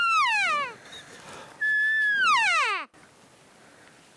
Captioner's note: elk call bugling